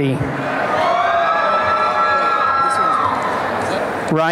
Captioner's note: applause and cheering